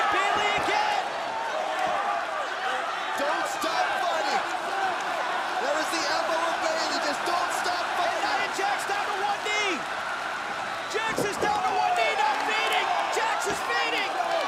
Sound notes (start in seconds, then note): 4.5 crowd chatter; 6.6 crowd cheering